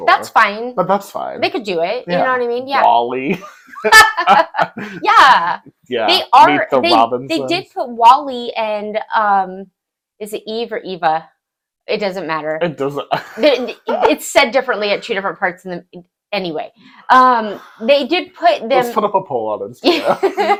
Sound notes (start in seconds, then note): 3.5 laughing